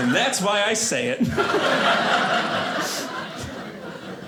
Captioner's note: audience laughing